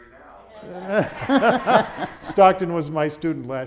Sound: audience laughing

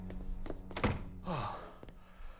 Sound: sighing

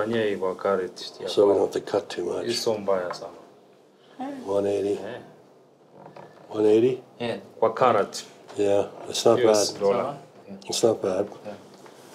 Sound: speak Swahili

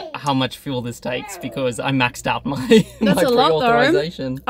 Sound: laughs

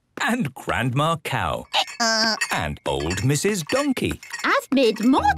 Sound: braying

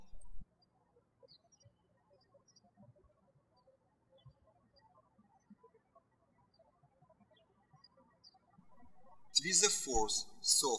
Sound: birds chirping

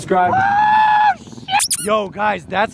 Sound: Logan screaming

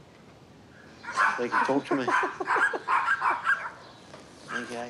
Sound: laughs

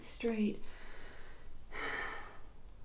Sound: exhales

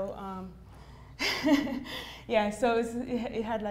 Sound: laughs

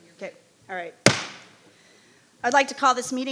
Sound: gavel bangs

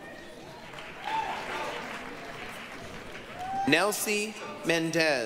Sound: applause, cheering

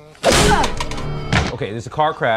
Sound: dog whining; groaning

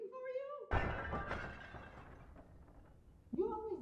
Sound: shattering noise

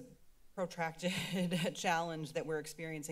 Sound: laughs

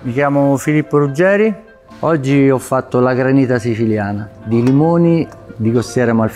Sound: speaking in foreign language

